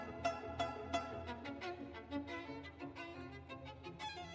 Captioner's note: none